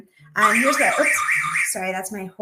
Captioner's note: alarm sounds